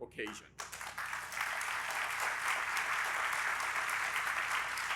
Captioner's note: audience applauding